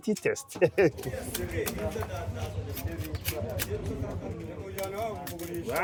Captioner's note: background chatter; chopping sugarcane